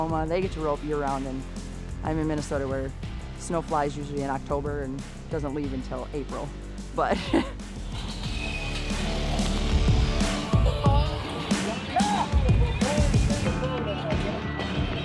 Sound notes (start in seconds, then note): 7.1 laughs; 7.7 dramatic lively music